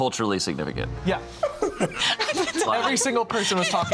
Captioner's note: laughing